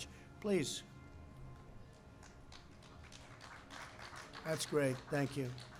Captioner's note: applause